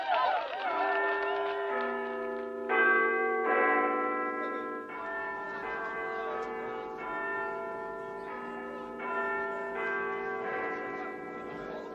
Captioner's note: Big Ben start announcing midnight